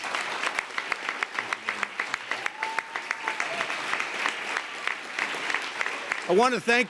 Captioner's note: applause